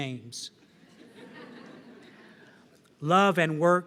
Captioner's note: laughter